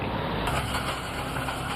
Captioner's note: metal being dropped in trailer